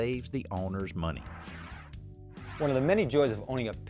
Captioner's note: whooshing